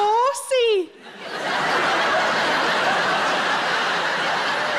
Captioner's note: audience laughing